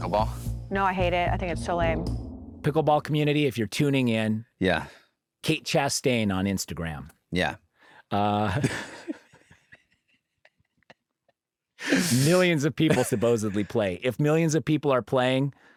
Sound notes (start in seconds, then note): 8.2 laughter